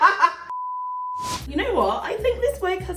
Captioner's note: off-air signal beeps